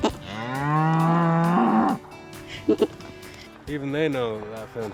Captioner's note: cattle moo; goat bleats